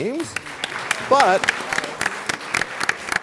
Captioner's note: applause